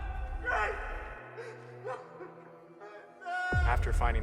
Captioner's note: Wayne cries out; dramatic music; sobbing